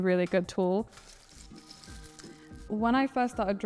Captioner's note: rustling